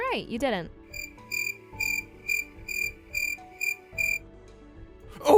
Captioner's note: cricket noises